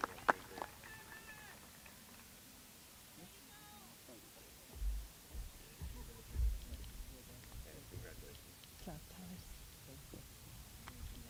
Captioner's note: applause